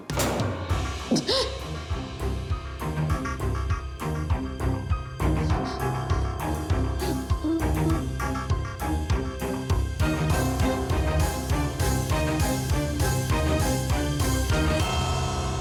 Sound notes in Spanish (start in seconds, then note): 0.0 sonido al cerrar la puerta; 7.2 sollozos